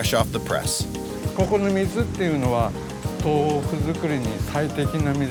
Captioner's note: man speaking Japanese